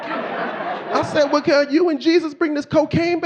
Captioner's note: audience laughing